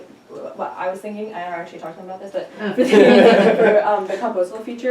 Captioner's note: chuckles